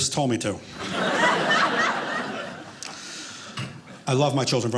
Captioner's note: audience laughing